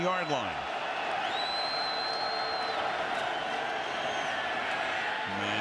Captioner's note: cheers